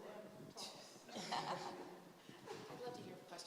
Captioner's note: laughter